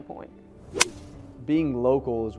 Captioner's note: golf club hitting ball